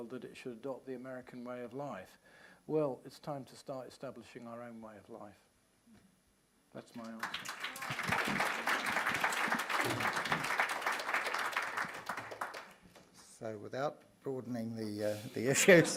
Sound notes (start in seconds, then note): 6.9 applause; 15.7 laughter